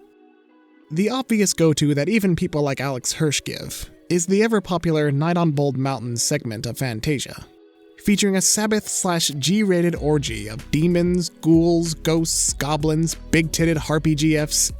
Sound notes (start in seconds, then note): none